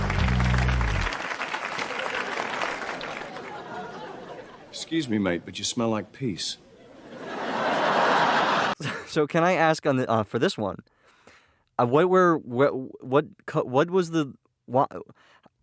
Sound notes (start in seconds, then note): 0.0 turns into applause; 8.7 chuckle